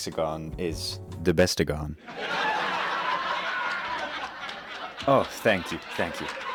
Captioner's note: crowd laughing